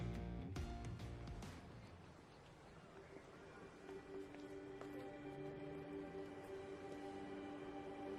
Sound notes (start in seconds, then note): 1.6 chattering